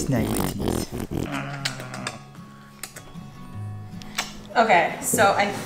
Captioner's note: kissing noises